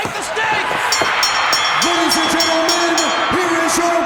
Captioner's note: bell ringing